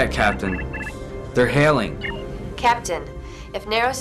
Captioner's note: alarm